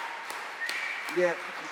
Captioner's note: cheers and applause